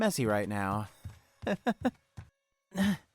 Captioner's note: nervous laugh